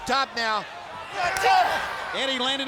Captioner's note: blows thudding